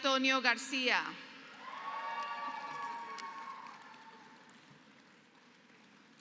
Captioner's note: applause